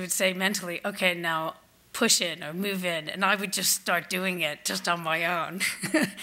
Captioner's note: laughs